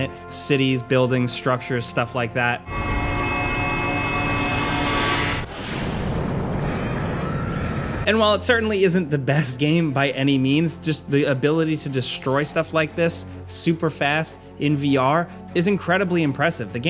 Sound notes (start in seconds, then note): 5.2 explosion rumbling; 6.6 civilians screaming